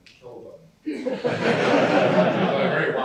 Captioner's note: laughter